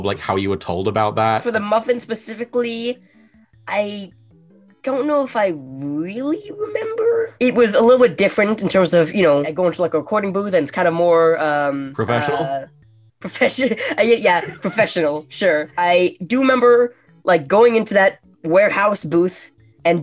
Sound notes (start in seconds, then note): 13.6 laughing